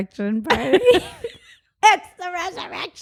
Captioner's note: both laugh